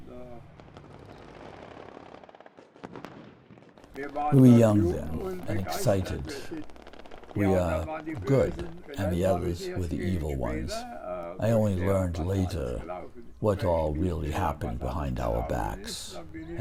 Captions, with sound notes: (guns firing) We were young then, and excited. We are good, and the others were the evil ones. I only learned later what all really happened behind our backs,